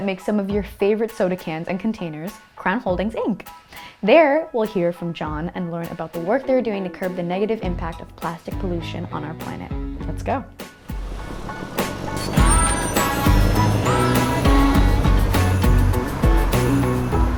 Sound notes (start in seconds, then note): 10.9 upbeat pop music; 11.0 bus engine roaring